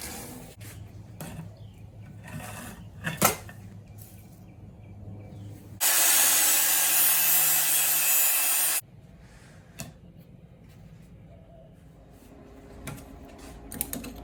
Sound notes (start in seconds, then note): 5.8 cutting noise